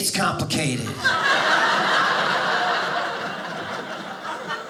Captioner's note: audience laughing